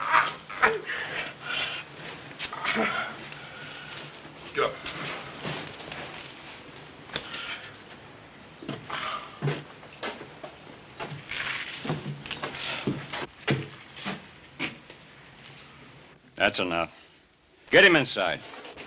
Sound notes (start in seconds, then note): 8.9 Bert sighs